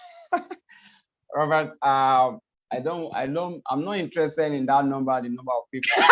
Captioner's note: laughs